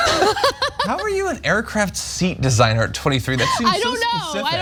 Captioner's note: laugh